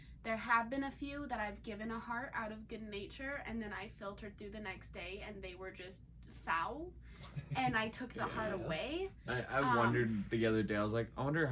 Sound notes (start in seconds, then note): 7.2 laughs